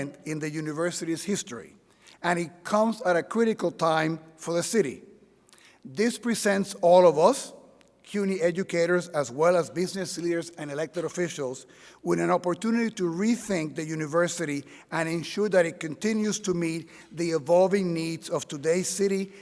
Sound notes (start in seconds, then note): none